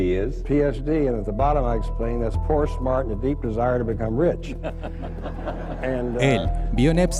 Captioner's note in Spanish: risas